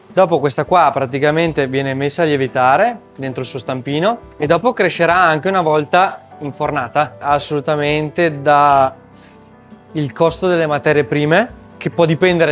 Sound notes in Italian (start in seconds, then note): 9.1 sbuffare